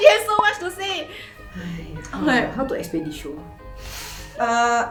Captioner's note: sighing